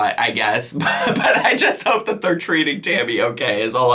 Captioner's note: laughing